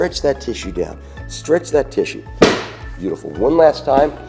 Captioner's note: thuds